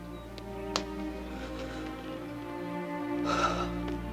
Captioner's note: deep sigh